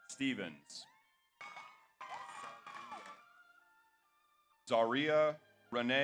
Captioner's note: audience applauds; audience cheers